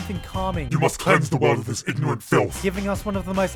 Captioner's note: demonic Voice